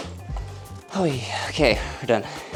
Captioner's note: drill buzzing